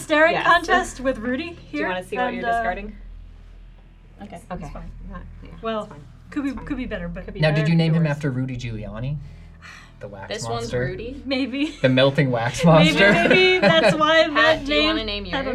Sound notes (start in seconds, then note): 9.6 sighs